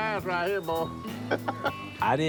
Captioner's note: chuckling